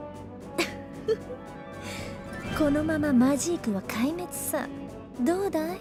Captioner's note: chuckle